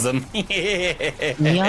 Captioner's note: laughing